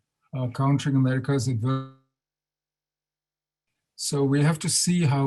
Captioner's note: audio drops